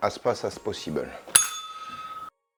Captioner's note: bell rings